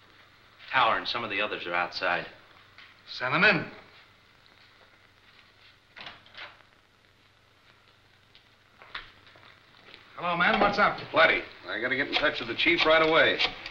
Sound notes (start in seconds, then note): 6.3 door opening